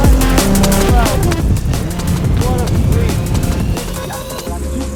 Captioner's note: people chattering